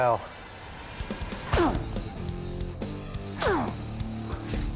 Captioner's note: grunting